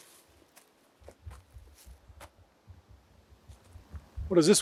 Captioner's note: forest din